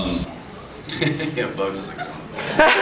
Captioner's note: laughs